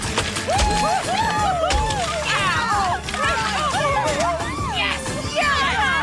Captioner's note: cheering